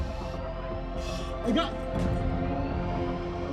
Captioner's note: stammers